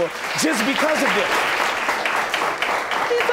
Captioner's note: audience applauding